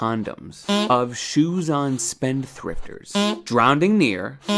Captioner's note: beep